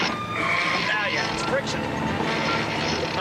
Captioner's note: gears grinding